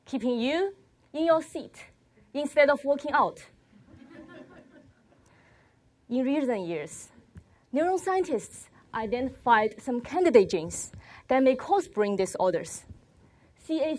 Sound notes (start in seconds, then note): 3.9 crowd laughs